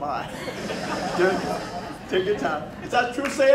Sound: crowd laughing

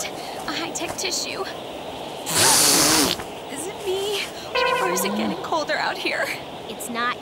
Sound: blows nose

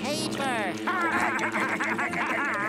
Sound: laughing

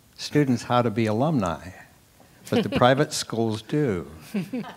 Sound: laugh; laugh

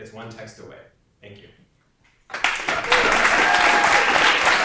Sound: audience applause and cheers

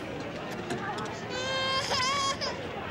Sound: baby crying

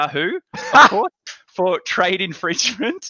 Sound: laughs

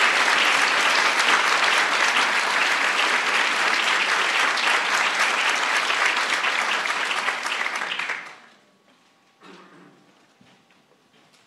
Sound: applause

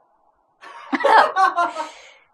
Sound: laughs

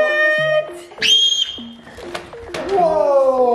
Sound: screams

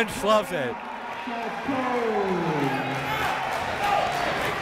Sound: crowd cheering

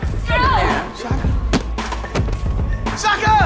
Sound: thud

